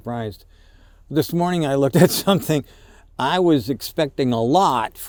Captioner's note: chuckles